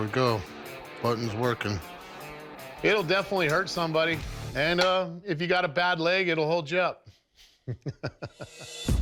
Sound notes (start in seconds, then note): 7.1 laughs